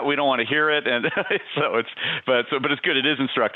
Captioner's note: laughs